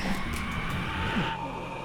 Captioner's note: whooooooooo